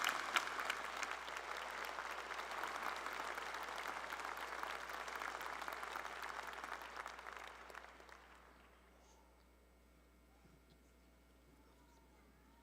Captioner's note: applause